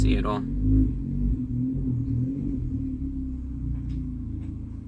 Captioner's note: engine roaring loudly nearby